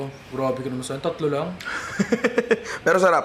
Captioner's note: laughs